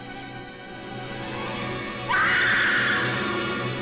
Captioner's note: Elga Screams